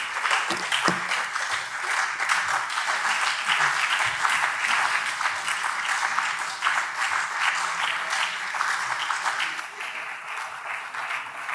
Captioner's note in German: Beifall SPD und BÜNDNIS 90/DIE GRÜNEN